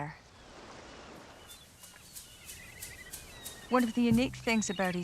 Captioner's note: seabirds calling; mid-tempo music